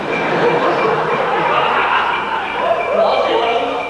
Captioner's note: americans laugh